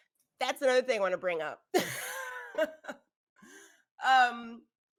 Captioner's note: laughing